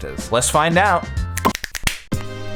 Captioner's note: more snapping and various noises